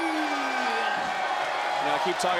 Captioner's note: crowd cheers